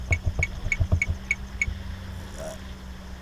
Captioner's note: camera beeping